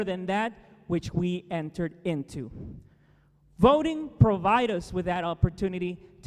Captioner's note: none